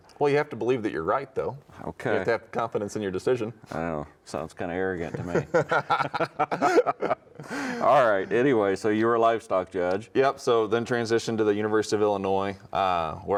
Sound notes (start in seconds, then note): 5.1 both laughing